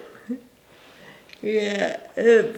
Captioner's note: laughing